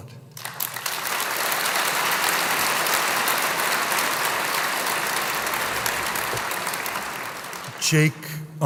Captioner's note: applause